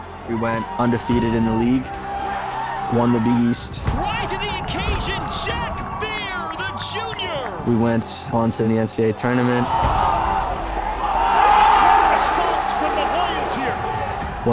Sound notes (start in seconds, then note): 11.4 crowd cheers